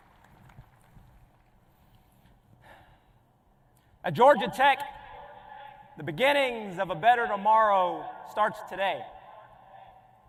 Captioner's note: applause